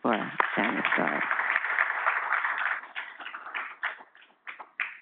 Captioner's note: audience applauding